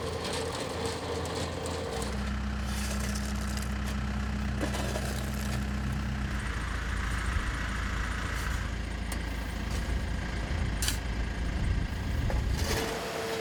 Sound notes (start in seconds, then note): 6.6 truck motor running